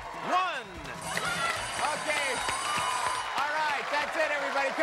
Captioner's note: bell ringing